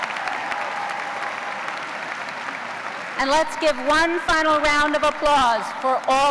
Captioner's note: cheers and applause